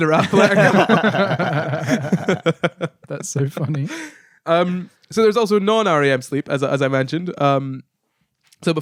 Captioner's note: laughing